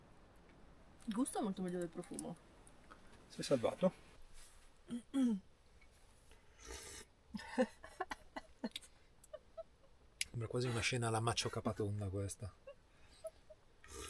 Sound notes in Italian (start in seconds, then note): 5.0 schiarire la voce; 7.3 risate